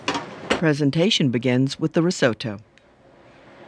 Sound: voiceover

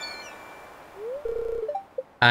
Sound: electronic noises

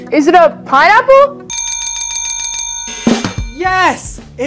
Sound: bell ringing

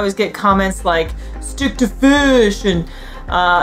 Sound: uses a funny voice

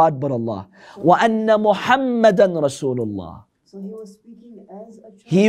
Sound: Arabic

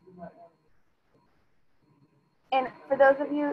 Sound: student speaking faintly

